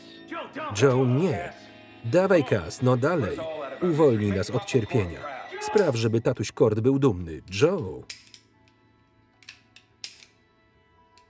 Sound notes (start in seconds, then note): 8.0 gun clicks